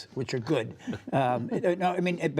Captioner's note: laughter